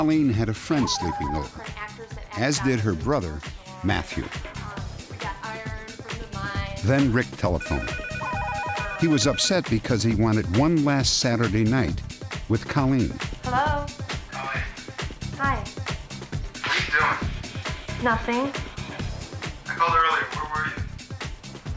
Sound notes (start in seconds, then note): 7.6 phone ringing